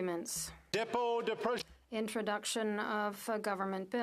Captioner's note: speaking French